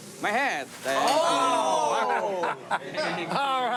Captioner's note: remarks of amazement